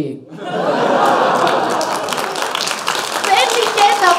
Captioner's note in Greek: χειροκροτημα